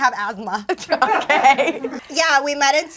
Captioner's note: laughs